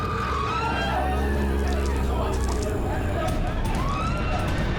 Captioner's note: screaming; growling